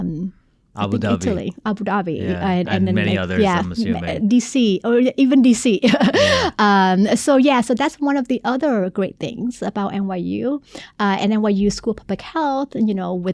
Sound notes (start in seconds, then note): 6.4 laughing